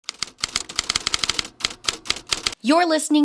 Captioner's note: typewriter keys tapping